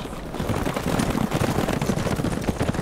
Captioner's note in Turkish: At nalı sesleri